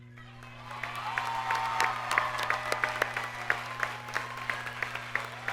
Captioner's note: audience cheers and applauds